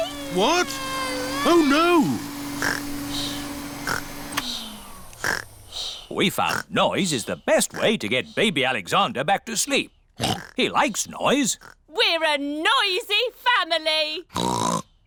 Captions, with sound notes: What? Oh, no. (SNORES) (WHIRRING STOPS) We found noise is the best way to get Baby Alexander back to sleep. -(OINKS) He likes noise. -We're a noisy family! (OINKS)